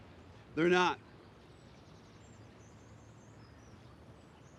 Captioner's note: bird chirp